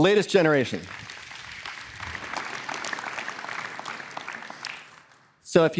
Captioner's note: applause